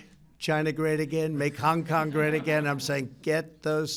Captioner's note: laughter